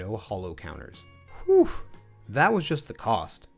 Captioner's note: whew